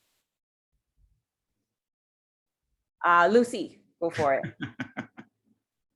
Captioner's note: laughter